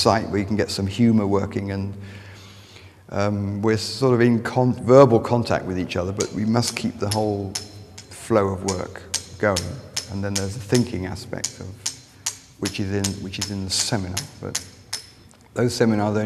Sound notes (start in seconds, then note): 6.0 hammer tapping